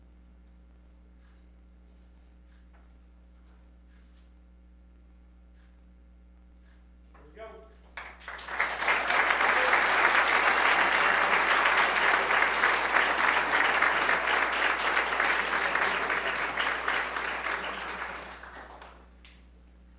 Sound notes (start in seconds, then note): 9.5 applause